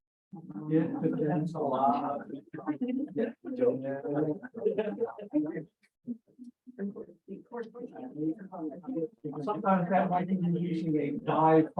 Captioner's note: background talk